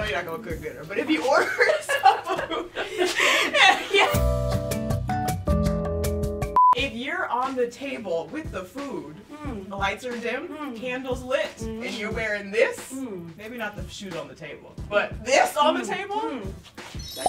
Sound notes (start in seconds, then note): 1.3 laughs; 4.1 elevator music